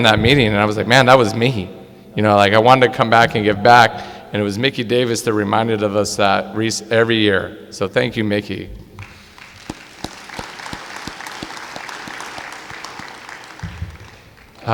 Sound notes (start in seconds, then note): 9.3 clapping